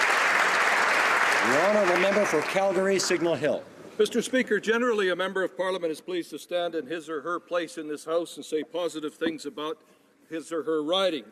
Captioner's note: applause